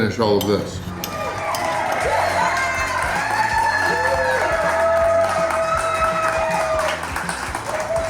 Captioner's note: crowd clapping and cheering